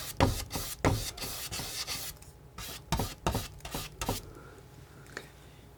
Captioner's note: scratching